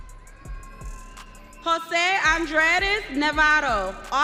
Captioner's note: audience cheering